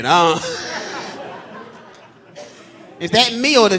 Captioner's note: audience laughing